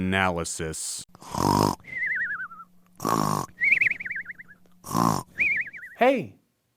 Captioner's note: snoring